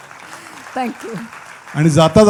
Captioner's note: applause